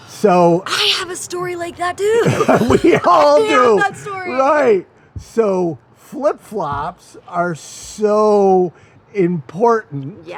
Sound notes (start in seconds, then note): 0.6 laughs